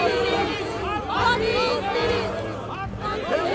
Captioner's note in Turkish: Hep bir ağızdan